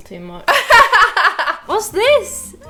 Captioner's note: laughing